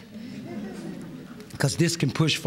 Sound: laughter

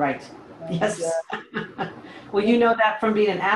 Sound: laughs

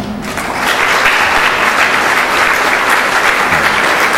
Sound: applause

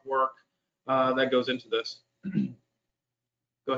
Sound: clears throat

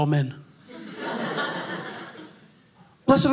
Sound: audience laughing

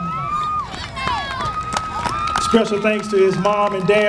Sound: applause

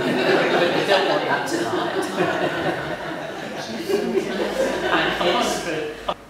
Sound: laughter; laughter continues

